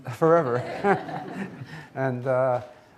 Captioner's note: audience laughing